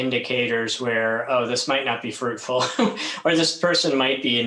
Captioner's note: laughs